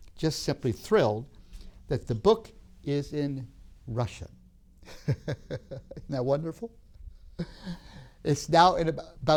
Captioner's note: laughs